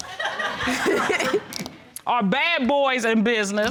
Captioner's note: laughter